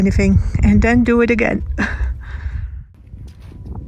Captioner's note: laughs